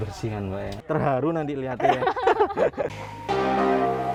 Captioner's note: laugh